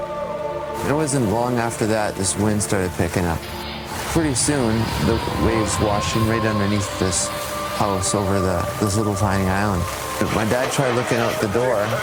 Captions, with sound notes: It wasn't long after that this wind started picking up. Pretty soon those waves started washing right underneath. (crashing waves) this house over this little tiny island. My dad try looking out the door (wind, metal crashing, yelling)